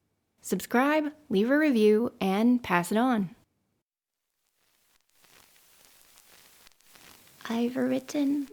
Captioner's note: phonograph static